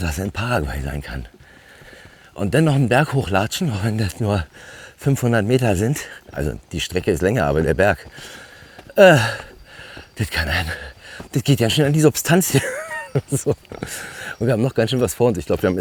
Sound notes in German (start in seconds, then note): 12.4 gelächter